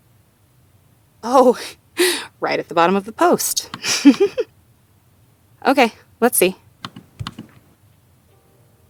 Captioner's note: chuckles